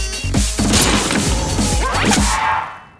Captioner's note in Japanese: 発砲音; 着弾音